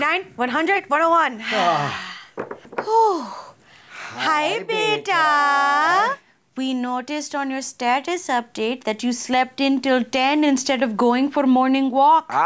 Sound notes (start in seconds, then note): 0.0 heavy breathing; 1.5 sigh